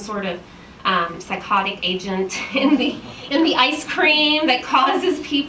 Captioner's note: chuckles